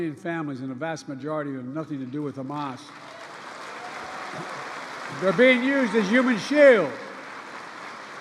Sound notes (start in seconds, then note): 3.7 applause